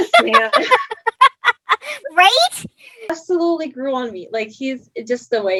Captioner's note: laughs